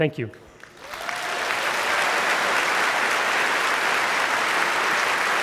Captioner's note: audience clapping